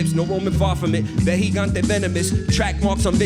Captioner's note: foreign language